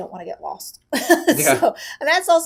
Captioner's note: laughing